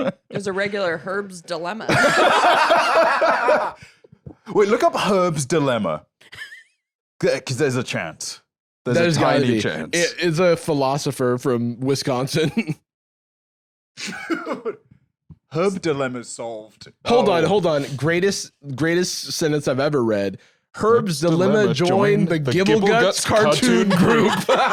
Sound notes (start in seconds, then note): 1.8 both laughing; 6.3 laughs; 13.9 laughs; 24.5 all laughing